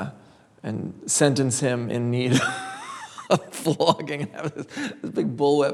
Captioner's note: laughs